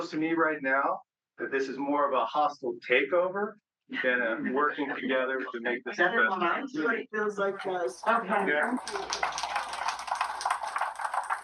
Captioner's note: clapping